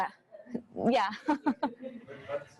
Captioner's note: chuckles